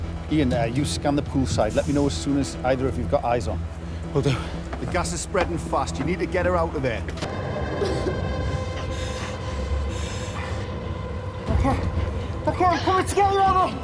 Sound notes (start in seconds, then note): 7.6 coughing